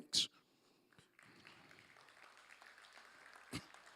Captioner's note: applause